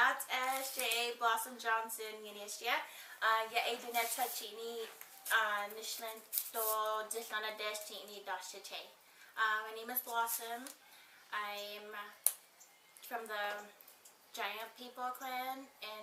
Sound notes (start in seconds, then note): 2.8 speaking in foreign language